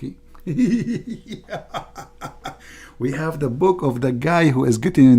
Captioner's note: Ketawa